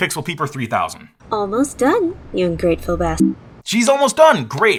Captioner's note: beep